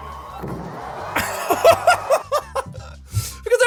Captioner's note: laughing